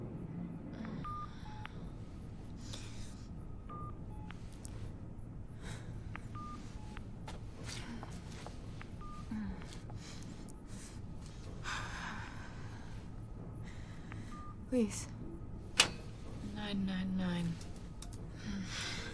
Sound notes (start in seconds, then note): 0.9 groans